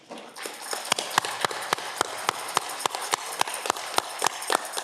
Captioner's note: audience clapping